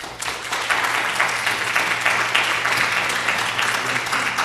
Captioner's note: applause